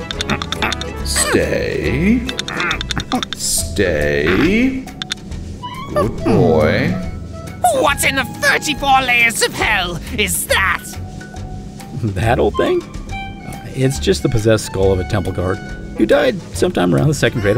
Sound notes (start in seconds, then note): 0.0 chompers clacking; 0.0 ape noises; 0.3 grunting; 2.2 Chompers one clack; 2.2 chompers clacking